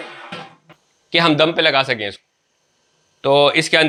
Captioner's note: steam